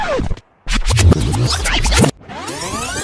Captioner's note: tape deck scratches, whirring